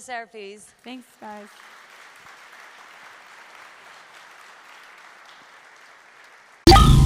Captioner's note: applause